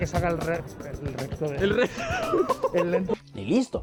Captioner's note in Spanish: Risas